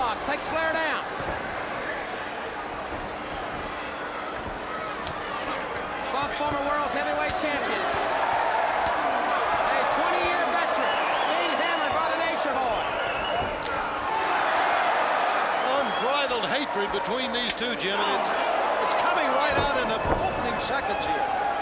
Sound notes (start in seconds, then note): 14.0 bodies thud; 14.0 crowd cheers